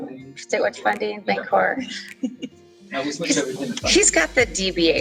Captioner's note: chuckles